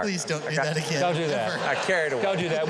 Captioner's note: chuckles